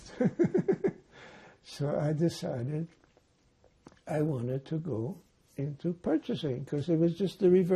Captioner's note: laughing